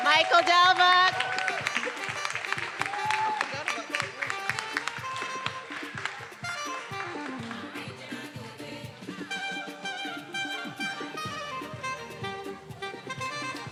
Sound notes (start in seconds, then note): 0.0 attendees applauding and cheering; 3.5 faculty member speaking faintly; 6.4 upbeat music